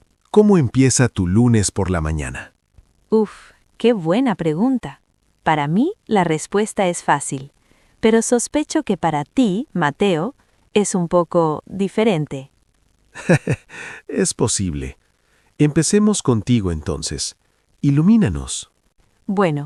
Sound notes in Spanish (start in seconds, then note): 13.2 Ríe suavemente